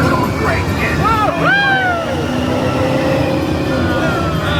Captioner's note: hooting